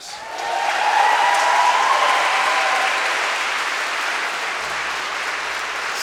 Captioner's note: crowd cheering; crowd clapping